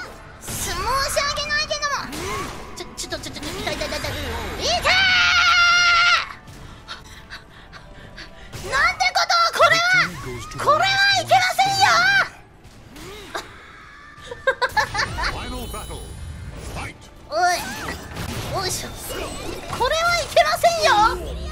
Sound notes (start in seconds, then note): 14.2 laughing